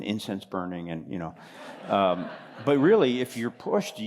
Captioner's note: laughter